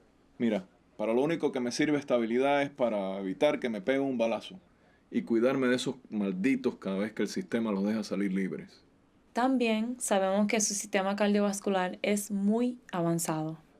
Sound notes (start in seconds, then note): none